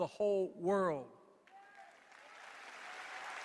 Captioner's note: applause